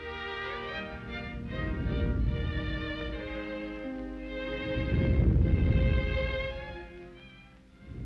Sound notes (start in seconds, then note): 0.0 soft orchestral music; 0.5 canons rumbling